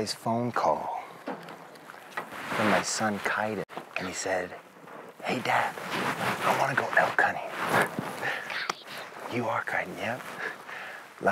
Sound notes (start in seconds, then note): 8.5 whispering